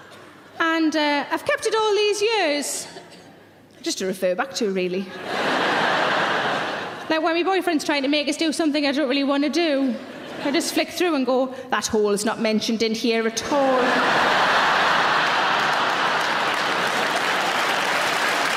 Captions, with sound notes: And I've kept it all these years just to refer back to, really. (audience laughing) Like when me boyfriend's trying to make us do something I don't really wanna do, I just flick through and go, "That hole's not mentioned in here at all." (audience laughing and applauding)